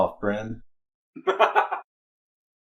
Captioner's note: laughs